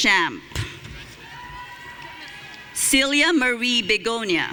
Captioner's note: audience cheering